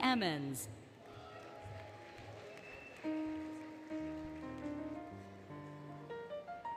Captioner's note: applause, Cheering, Music